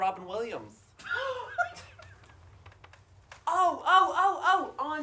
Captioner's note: chuckling